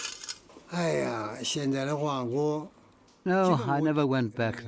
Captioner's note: speaking in foreign language